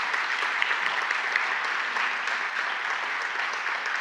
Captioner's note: audience applauds